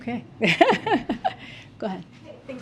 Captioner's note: laughs